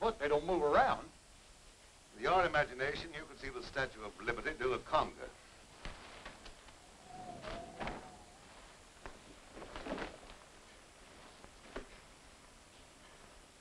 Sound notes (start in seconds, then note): 6.7 wind howling; 9.0 coat rustling